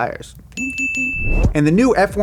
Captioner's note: bell dinging